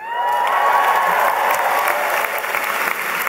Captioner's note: applause